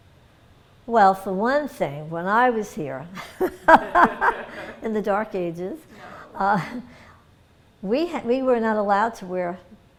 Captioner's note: laughter